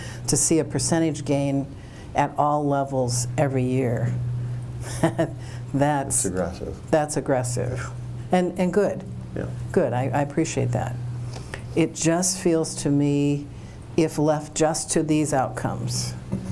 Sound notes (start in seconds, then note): 4.8 laughing